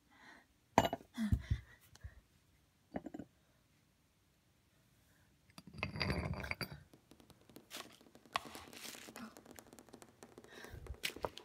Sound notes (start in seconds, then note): 6.9 distant tapping sounds